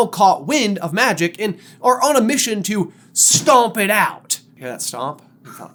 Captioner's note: stomp